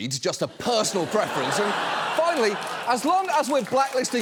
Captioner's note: studio audience laughing